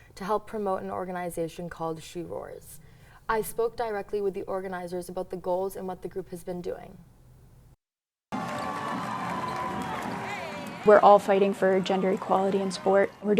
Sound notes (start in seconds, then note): 8.3 cheering